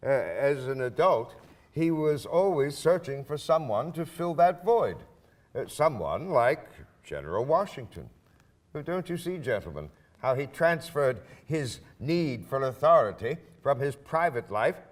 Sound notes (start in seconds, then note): none